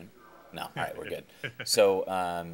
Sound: chuckling

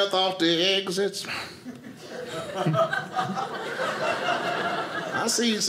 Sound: audience laughing

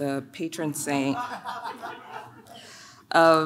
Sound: audience laughs

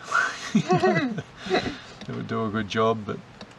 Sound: both chuckle

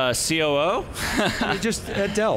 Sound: laughs

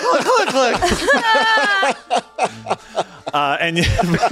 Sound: laughter at simplicity

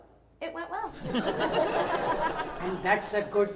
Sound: audience laughs

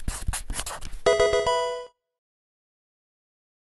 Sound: Pokemon game sound

